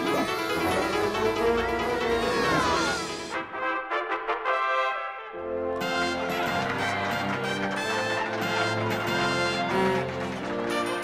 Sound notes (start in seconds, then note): 1.9 trumpets sound; 9.1 cheer and clap